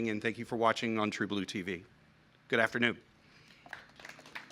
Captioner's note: applause